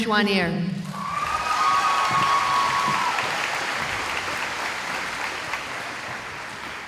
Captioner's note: cheering